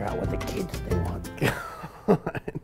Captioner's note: laughs